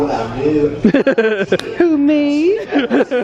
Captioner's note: laughing